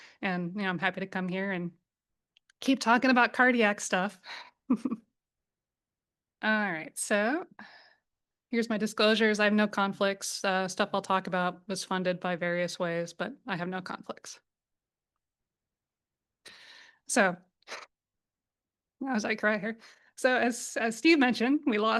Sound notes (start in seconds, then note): 4.6 chuckles